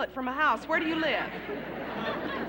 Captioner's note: laughter